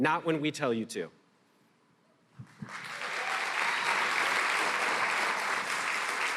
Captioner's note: applause